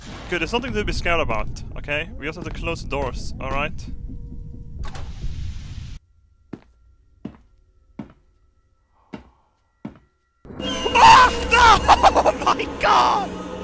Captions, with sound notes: Dude, there's nothing to be scared about, okay? We just have to close doors, alright. *Actual terrified scream* HAHA HOoou- my GOD!